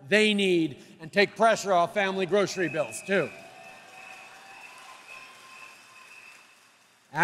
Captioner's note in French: Applaudissements